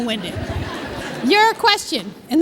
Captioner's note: laughter